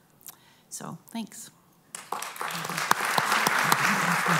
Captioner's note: applause